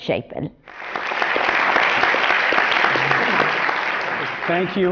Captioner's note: applause